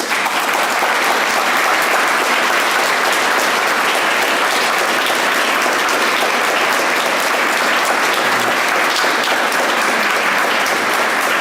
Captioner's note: applause